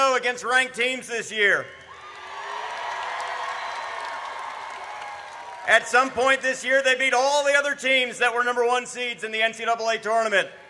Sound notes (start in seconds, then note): 1.8 audience cheers